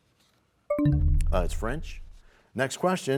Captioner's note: bell chimes, time expires